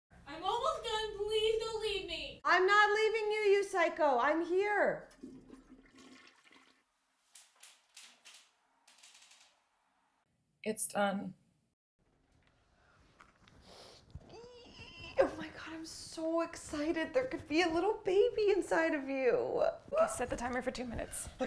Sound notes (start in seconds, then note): 5.1 toilet flushing; 14.3 squealing